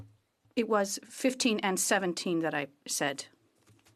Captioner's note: speaking French